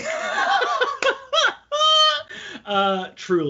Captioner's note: all laughing